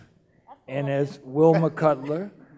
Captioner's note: laughing